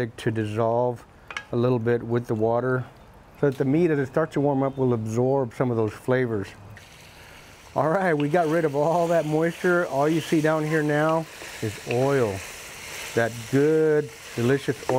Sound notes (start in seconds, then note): 7.4 meat sizzling